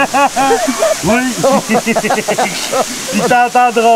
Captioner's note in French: rires